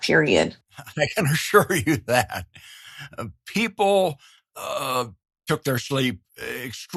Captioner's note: laughs